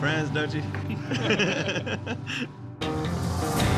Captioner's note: everyone laughs